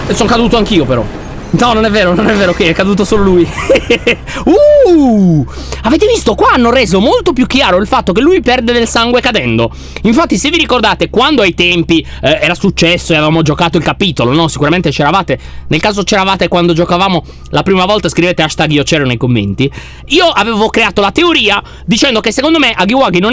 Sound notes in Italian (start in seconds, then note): 0.0 suono metallico; 4.4 tono sorpreso